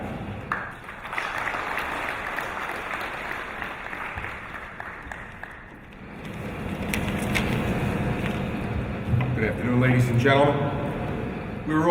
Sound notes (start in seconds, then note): 0.4 applause